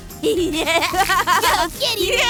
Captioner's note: laughs